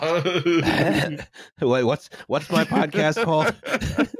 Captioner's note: laughter